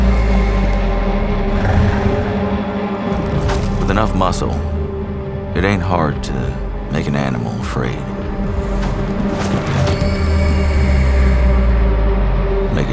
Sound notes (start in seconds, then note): 1.3 horse snorts; 1.4 horse squeals; 8.6 rope whooshing; 9.4 horse squeals